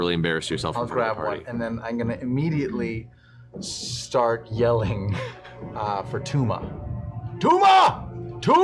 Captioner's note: yelling